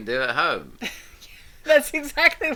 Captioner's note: both laughing